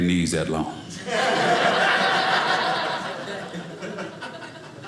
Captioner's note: audience laughing